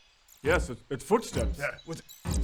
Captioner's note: thud